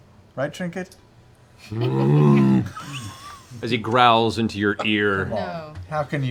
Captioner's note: bear noises